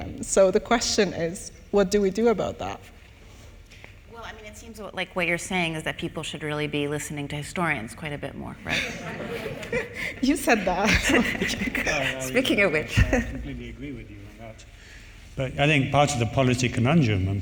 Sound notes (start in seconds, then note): 8.7 audience laughing; 11.6 chuckles